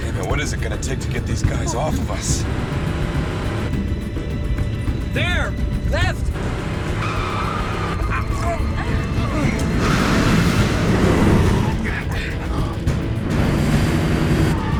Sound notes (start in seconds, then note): 7.3 tires screeching; 7.9 all grunting